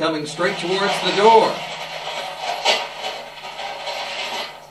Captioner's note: clanking noise